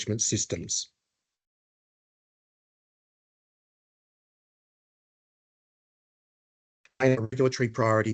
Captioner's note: audio dips